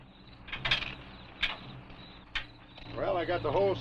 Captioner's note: crickets chirping